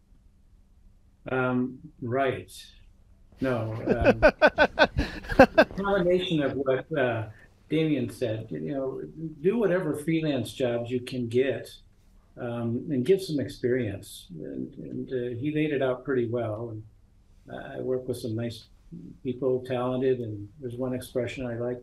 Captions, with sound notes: >> Write. [Laughter] No. A combination of what Demian said. Do whatever freelance jobs you can get. And get some experience and he laid it out pretty well. And I work with some nice people, talented and there's one expression I like,